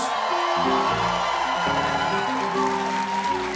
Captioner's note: cheers and applause